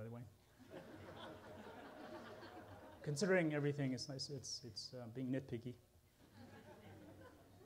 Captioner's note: laughter